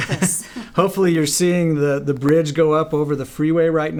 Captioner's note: laughs